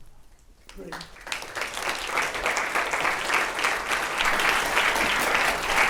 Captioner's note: applause